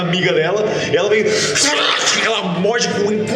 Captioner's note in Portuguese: grunhido